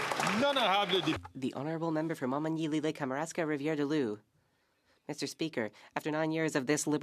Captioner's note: some Applause